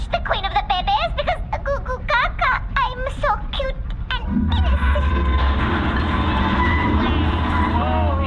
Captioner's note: babytalking